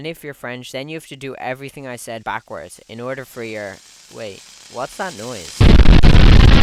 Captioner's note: sizzling noise